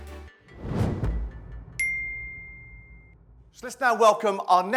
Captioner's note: logo whooshing; bell rings